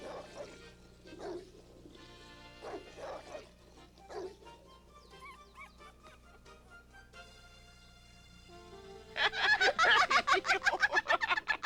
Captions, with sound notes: [WHIMPER] HEE HEE HEE HEE!